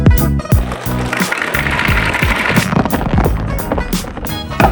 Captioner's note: nuts clattering